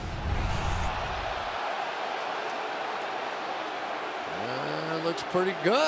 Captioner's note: cheering